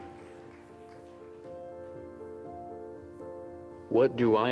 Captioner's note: applause